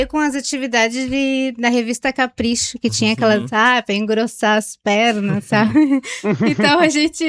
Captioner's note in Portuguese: risadas